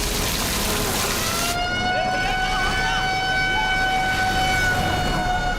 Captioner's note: ambulance siren